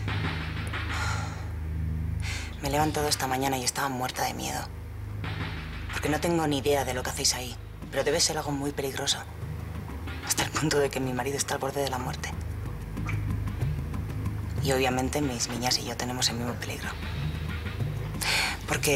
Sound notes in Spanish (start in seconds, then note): 0.9 Suspiros